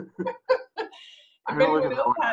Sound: laughter

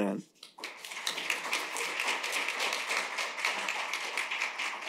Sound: applause

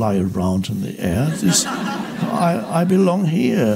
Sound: audience laughs

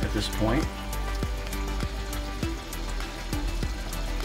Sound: water rushing

